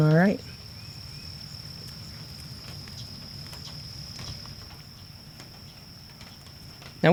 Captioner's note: birds singing; crickets chirping